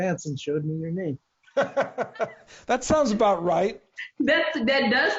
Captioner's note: laughing